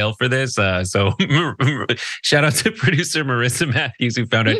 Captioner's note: laugh